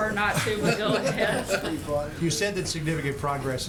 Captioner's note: laughter